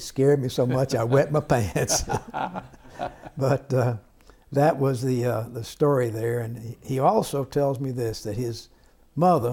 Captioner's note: laughter